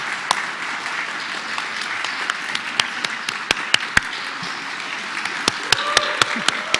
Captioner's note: applause